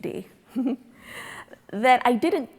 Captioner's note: laughing